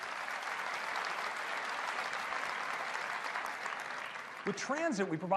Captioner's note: applause